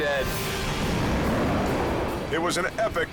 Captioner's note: wind howls